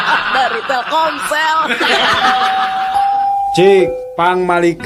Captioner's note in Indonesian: tertawa